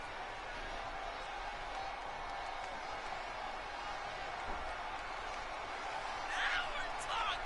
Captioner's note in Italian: Applauso